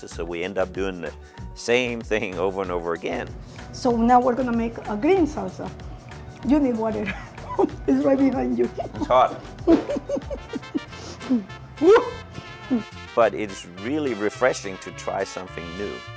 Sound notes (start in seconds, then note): 9.6 laughing; 9.6 lady laughing